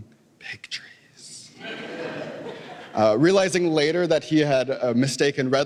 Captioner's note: laughter